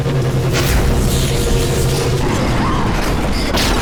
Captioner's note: zap; screams